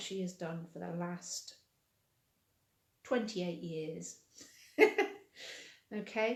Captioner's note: laughing